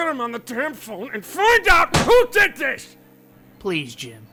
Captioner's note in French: Loeb claque la table